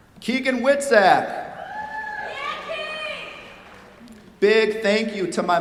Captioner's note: cheers, applause